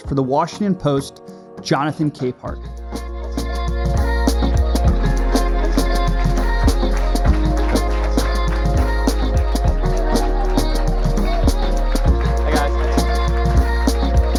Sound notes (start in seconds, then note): 3.9 audience applauding; 3.9 upbeat music